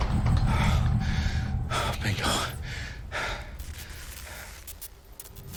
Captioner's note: sigh of relief; breaths